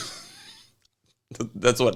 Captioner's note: laughs